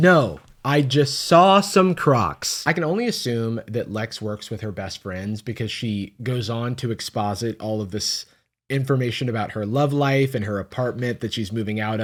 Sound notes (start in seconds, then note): none